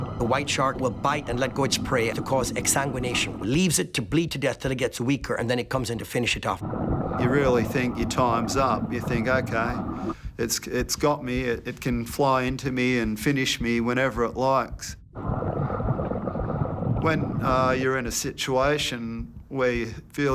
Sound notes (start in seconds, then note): 15.1 bubbling